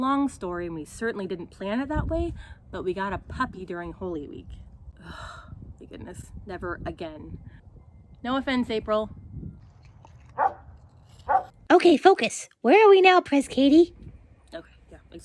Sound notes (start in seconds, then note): 10.3 barking